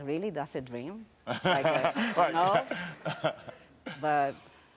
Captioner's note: Karamo laughs